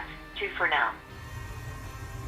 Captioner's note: automatic voice